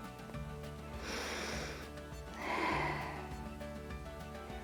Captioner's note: inhales and exhales